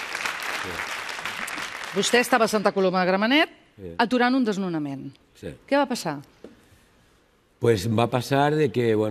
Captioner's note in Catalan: aplaudiments